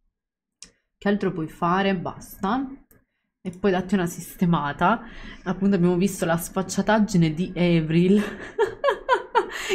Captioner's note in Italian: Risate